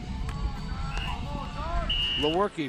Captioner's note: whistle blowing